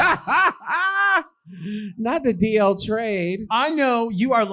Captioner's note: laughing